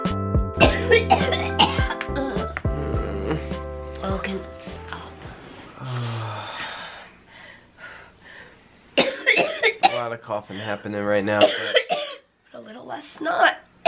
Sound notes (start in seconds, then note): 0.6 coughing; 5.7 sighs; 9.0 coughing; 11.3 coughing